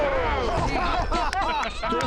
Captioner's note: artillery fire; laughter